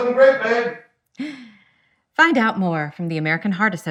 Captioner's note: laughs